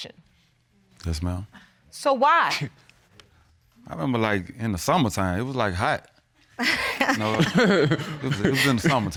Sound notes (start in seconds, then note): 6.7 laughing